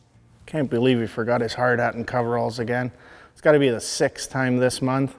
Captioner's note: none